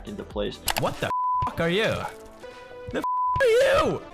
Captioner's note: beep